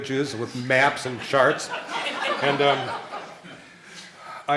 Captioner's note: laughing